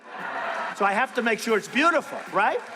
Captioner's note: laughing